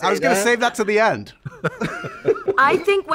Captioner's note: laughter